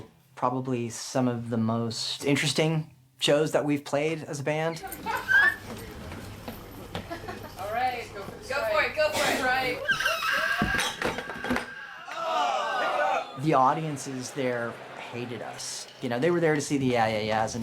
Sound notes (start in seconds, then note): 12.4 people exclaiming